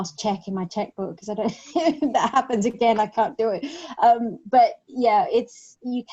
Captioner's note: laughs